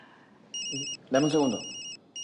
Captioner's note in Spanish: Suena el celular